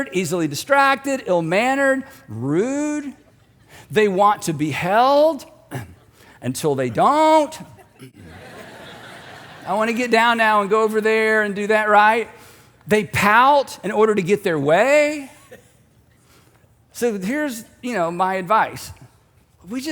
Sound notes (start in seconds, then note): 7.6 audience laughing